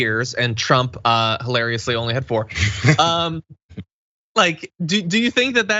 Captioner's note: laugh